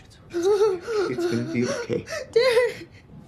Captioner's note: sobbing